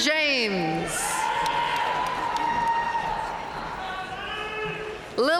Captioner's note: audience cheering and applauding